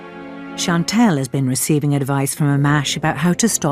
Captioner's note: voiceover